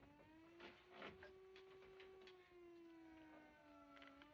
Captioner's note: siren Wailing